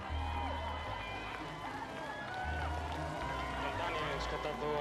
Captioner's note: applause; cheering